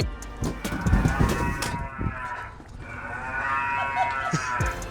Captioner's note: cow moos